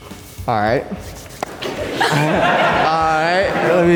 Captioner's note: everyone laughs